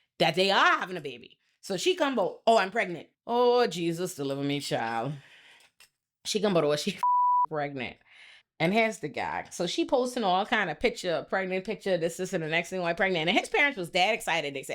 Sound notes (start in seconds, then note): 7.0 beep